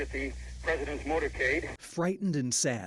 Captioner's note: sound of radio, TV footage